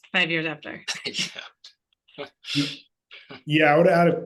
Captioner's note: laughs